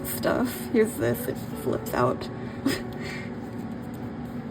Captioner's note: laughs